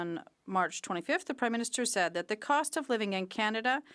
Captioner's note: speaking French